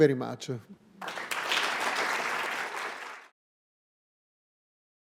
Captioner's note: clapping